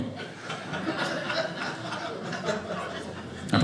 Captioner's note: audience laughing